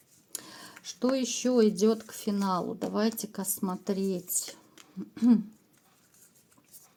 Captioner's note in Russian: откашливается